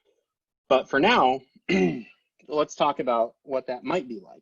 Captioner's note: clears throat